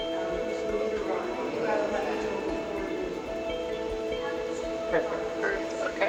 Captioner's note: gentle music; people chattering